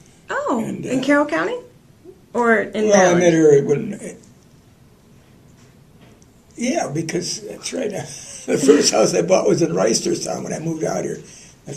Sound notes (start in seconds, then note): 8.2 laughter